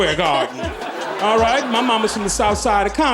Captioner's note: audience laughing